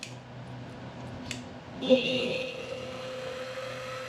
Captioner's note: mill Whirling